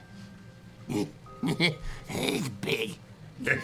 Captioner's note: chuckles